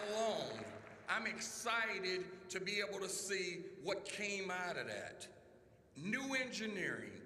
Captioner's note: applause